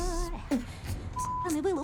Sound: beatboxing

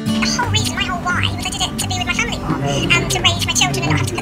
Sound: high pitched voice - double speed playback

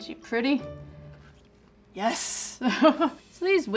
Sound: laughs

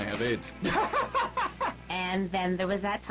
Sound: peter laughs

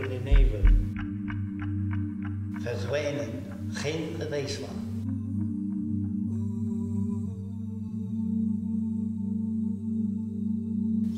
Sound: voices echo words of the poem in different languages

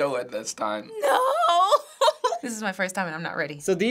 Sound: crying

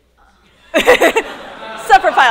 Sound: laughter

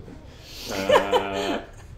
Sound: laughs

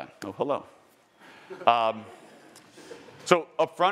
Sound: attendees laughing

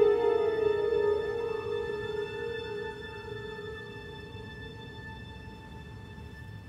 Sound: distant sirens

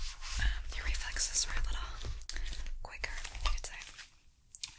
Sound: glove Sound

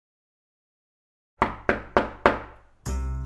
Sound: door Knocking

